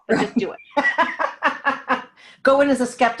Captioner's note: laughing